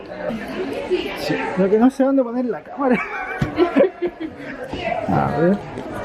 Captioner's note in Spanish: risas